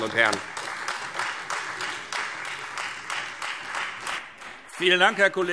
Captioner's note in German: Beifall Freie Demokraten